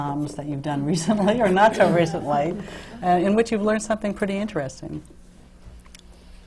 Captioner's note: laughter